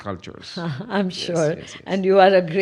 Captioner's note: laughs